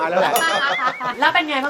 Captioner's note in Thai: เสียงหัวเราะ